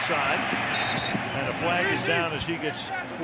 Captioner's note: whistle